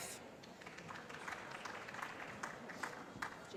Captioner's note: applause